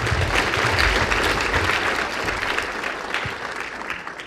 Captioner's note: applause